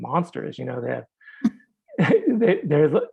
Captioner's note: chuckling